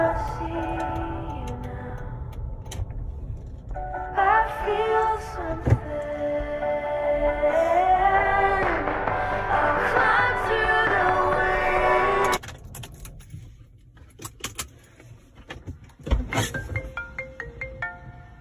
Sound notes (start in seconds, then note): 12.4 keys clanging; 16.4 opening ringtone